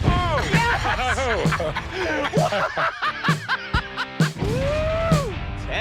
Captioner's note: laughter